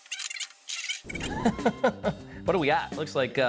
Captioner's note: chuckling